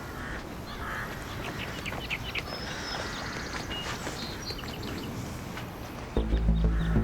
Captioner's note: street noises; suspenseful music